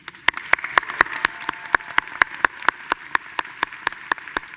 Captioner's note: audience applauding